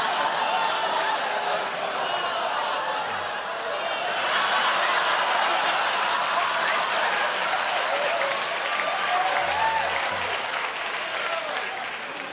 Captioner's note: applause; laughter